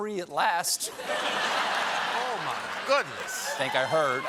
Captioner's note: laughter